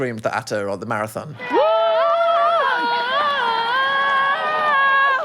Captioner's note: onlooker vocalizing